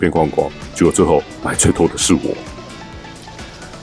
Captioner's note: laughs